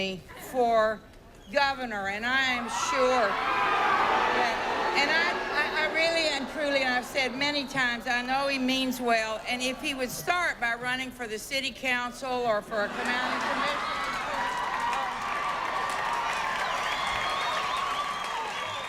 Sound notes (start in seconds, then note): 3.0 crowd booing, shouting; 12.8 crowd cheering and applauding